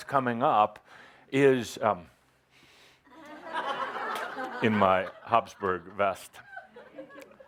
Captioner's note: laughter as he poses for a picture